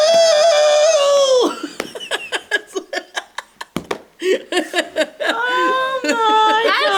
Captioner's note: laughter